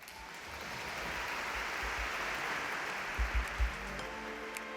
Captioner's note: audience clapping